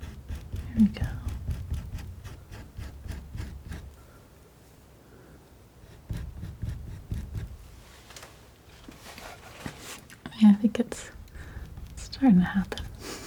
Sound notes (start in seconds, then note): 1.6 scratching; 13.0 scratching